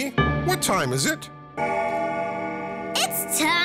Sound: clock rings

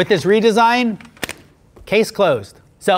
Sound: case snaps

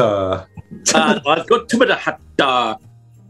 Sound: garbled mimicking of watson

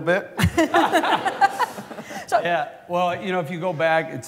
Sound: laughter

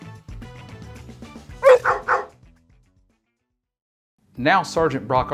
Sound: upbeat music; dogs barking

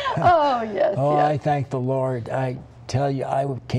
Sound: laughter

